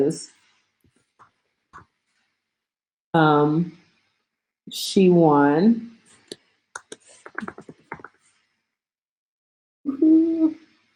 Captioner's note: typing noises